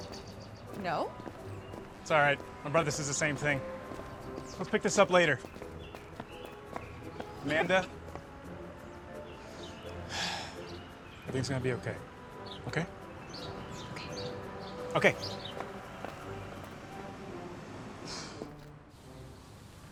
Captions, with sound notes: - No. - It's alright. My brother says the same thing. Let's pick this up later. Amanda... (exhales) Everything's gonna be okay. Okay? - Okay. - Okay. (sighs)